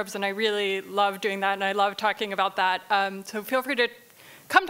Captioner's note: none